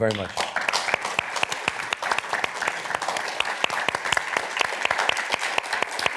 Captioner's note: applause